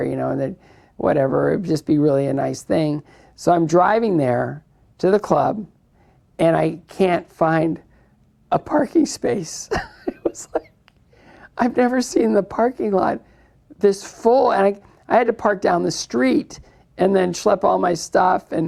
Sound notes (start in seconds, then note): 9.6 laughs